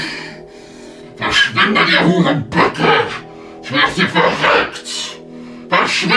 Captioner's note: En alemán